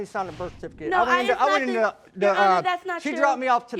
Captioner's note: stammering